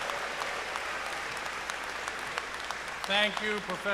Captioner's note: cheers and applause